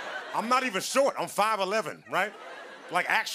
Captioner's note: laughter